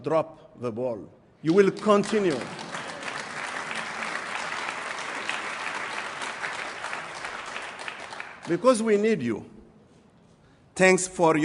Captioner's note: applause